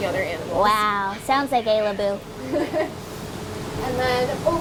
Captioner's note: chuckles